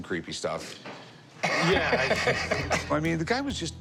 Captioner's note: laughing